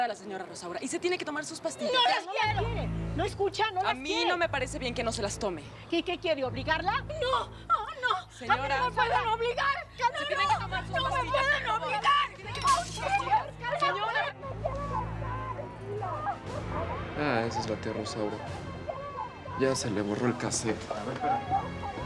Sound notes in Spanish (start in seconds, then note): 12.5 Sonido al romper vajilla; 17.3 Gritos y exclamaciones de Rosaura